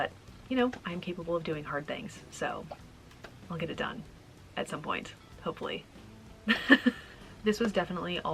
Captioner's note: laughing